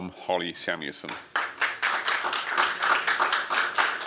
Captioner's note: applause